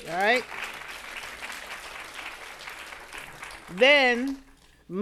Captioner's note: audience applauding